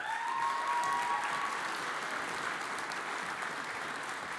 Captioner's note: audience applauds